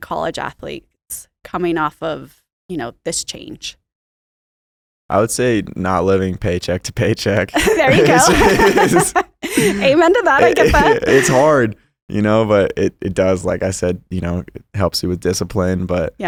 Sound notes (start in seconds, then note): 7.5 both laughing